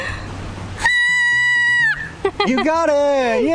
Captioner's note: whistles